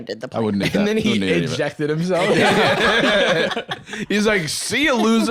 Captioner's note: all laughing